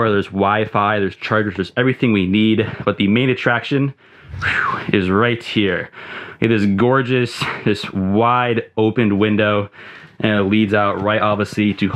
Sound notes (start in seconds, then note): 4.4 whistles